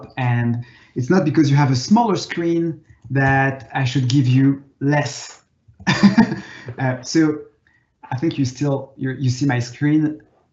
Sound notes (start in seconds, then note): 5.8 laughing